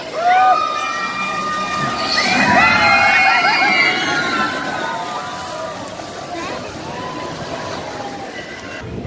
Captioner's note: people screaming